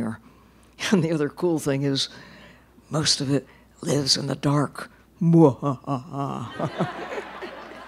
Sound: laughter

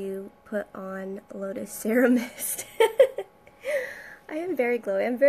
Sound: laughing

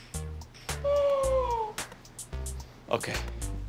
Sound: gasps

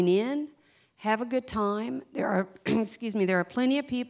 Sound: clears throat

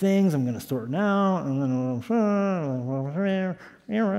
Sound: mumbling

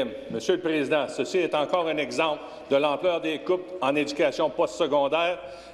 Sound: speaking French

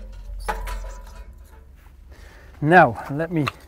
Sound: metals clinking

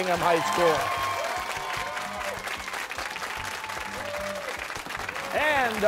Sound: cheers and applause

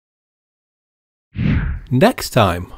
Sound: text whooshes

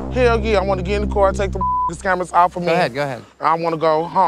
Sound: beep

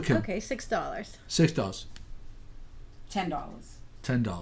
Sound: voiceover

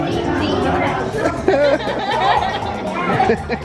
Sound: laughter

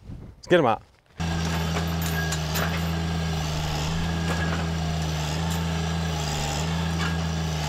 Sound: engine rumbling; metal scrapping

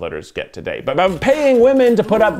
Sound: bell dings

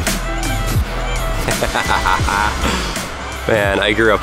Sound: drop bass music; laughs

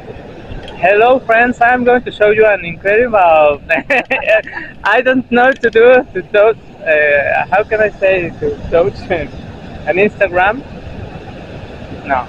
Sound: laughs

